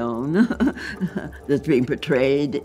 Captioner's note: chuckles